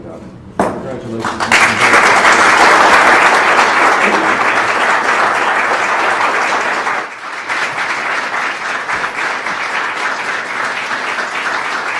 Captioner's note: applause